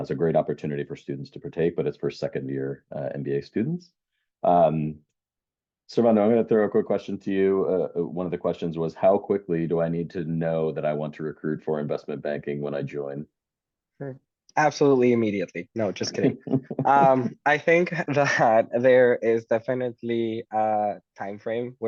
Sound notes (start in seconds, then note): 16.0 chuckles